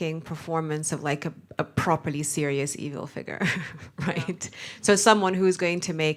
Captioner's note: laughs